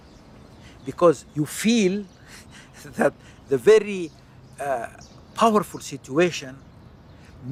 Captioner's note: chuckles